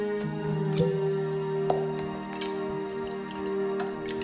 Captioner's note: cork pops